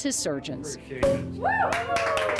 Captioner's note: cork pops; all clap and cheer